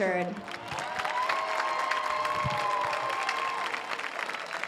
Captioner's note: audience cheers